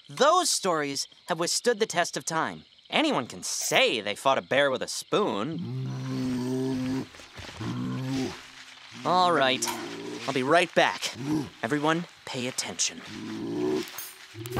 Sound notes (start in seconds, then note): 5.5 growling